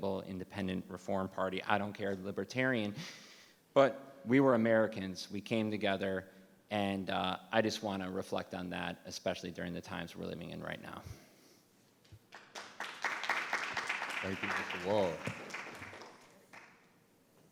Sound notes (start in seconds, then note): 12.3 everyone applauding